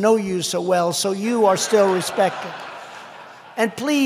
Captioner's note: laughter